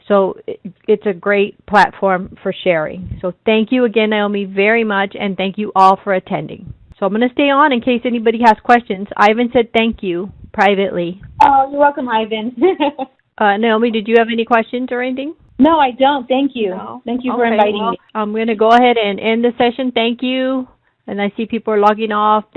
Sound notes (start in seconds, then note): 12.6 laughs